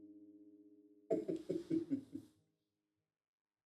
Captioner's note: chuckles